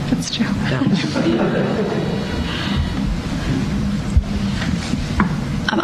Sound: laughter

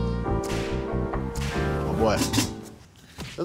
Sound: elastic snapping

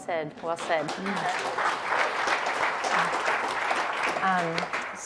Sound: crowd clapping

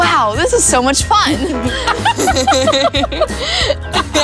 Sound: laughing

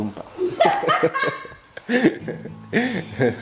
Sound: laughs

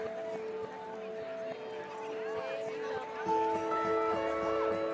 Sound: crowds chattering; pleasant music

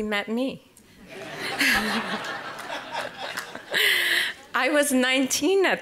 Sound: audience Laughter

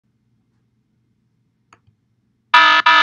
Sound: silence; alarm sound

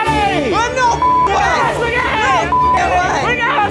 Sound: beeps way; beeps

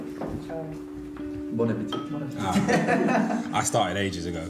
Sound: laughing

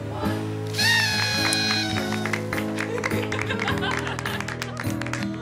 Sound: party horn, laughter, applause

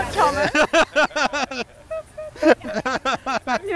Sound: laughter

